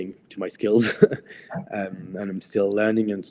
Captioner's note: chuckles